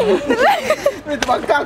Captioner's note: laughing